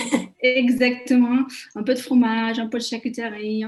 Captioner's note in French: Rires